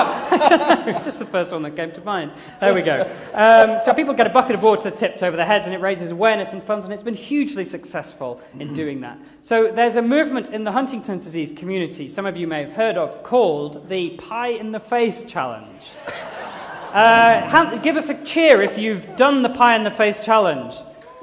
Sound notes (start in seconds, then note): 15.9 laughter; 21.0 cheering